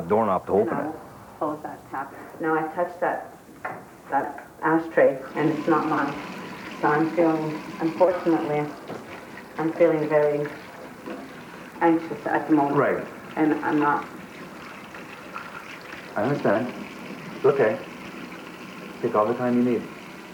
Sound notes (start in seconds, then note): none